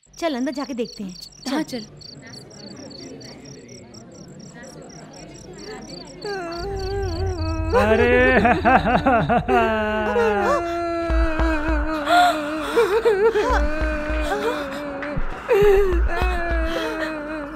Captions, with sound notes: Let's go inside and find out. - Let's go. [Wailing] [Gasps]